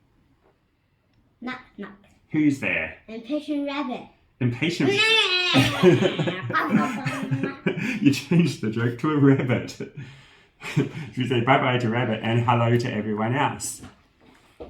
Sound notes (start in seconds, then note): 4.8 rabbit noises